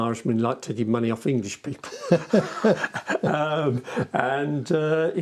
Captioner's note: laughing